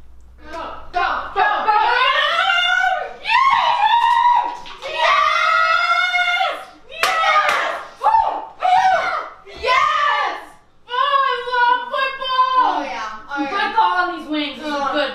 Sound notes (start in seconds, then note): 7.0 hooting